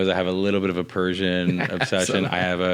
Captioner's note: laughs